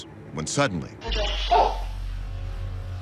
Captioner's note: barks